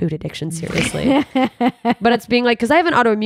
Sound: laughing

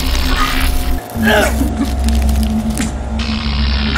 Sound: coughing

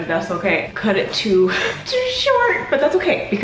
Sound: chuckles

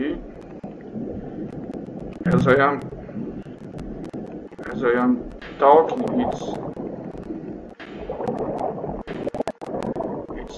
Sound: sound of submarine

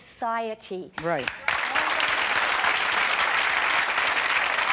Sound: clapping

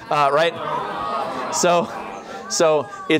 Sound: audience awwing

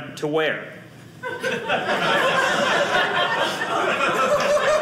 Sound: audience laughing

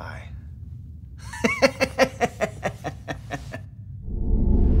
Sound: laugh

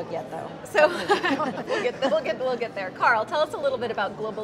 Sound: laughs

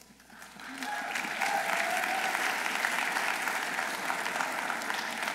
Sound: audience applauding

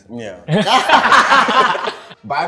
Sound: laughs

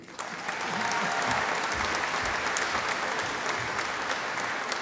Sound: audience applauding

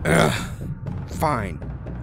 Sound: grunt

